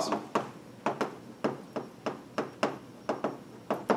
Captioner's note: chalk tapping